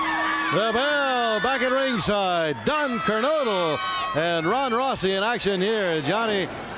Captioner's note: bell ringing; crowd cheering